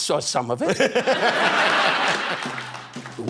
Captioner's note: laughing